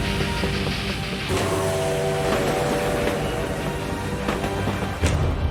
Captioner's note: dramatic orchestral music; train chugging; train whistle blows